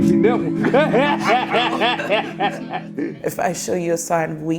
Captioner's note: laughter